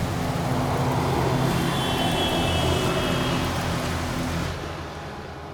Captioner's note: car passing by, honking